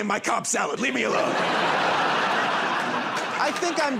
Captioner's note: laughter and applause